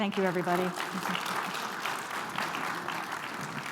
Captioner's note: audience clapping